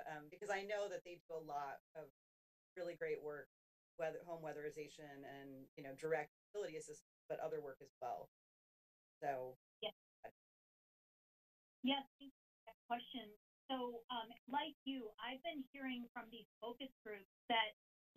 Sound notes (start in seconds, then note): 9.3 audio cuts